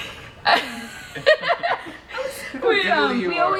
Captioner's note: laughing